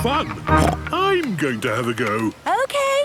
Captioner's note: snorts